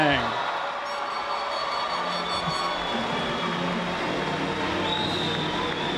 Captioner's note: audience applauding; horn squeaking